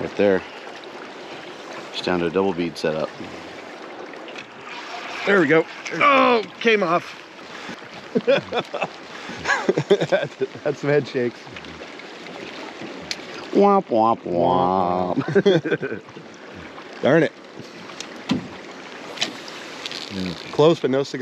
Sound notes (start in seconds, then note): 4.0 reel spinning; 8.0 chuckling; 15.0 chuckling; 17.2 rod whipping; 19.4 reel spinning